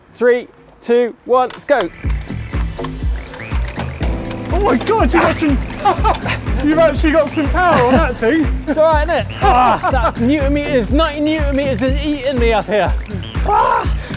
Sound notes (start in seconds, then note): 2.1 upbeat music; 5.5 laughs